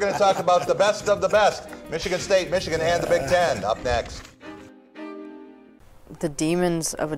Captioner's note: laughter